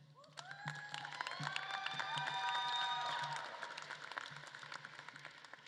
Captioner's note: audience claps and cheers